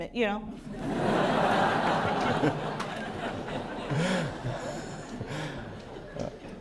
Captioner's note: laughter